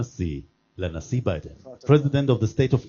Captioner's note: speaks Hebrew